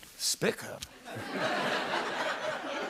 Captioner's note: laughter